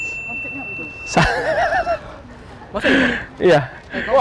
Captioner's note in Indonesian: ketawa